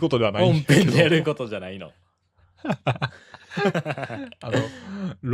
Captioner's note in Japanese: 笑い